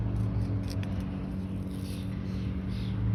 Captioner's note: ambient sound, bird song